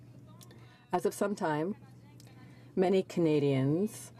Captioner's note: speaking French